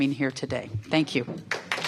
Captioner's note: applause